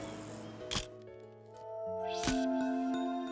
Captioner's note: camera shutter click